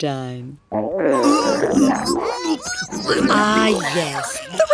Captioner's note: all gurgling, gagging